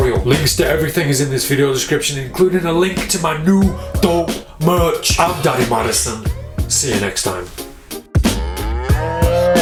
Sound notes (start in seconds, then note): 7.3 mellow melodic music; 8.3 cow mooing